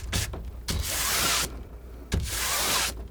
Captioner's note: tapping